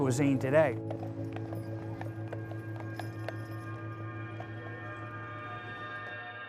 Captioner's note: horse shoes clipping on cobblestones